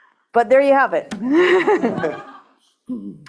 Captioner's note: laughter